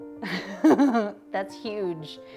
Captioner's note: laughing